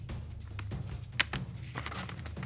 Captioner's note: paper rustling